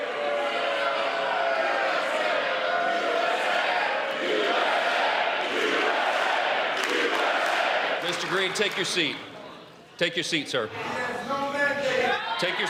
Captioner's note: yelling; crowd chanting, "usa"